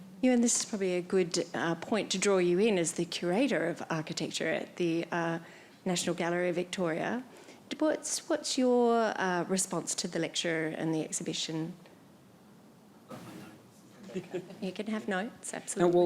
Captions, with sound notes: - Ewan, this is probably a good point to draw you in as the Curator of Architecture at the National Gallery of Victoria, what's your response to the lecture and the exhibition? - I've got my notes. (panel chuckles) - You can have notes, absolutely.